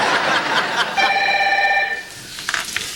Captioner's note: telephone rings